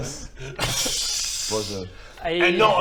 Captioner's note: hissing in disbelief